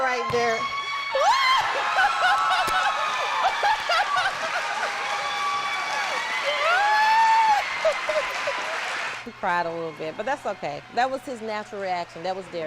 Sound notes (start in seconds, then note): 1.7 laughter; 2.1 applause